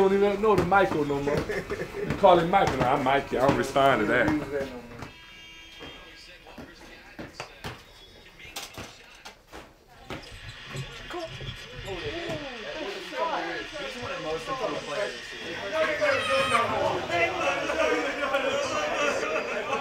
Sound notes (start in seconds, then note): 6.7 TV basketball commentary; 16.8 excited commotion